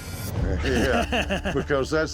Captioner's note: laughter